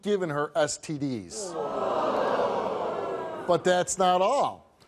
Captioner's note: audience groans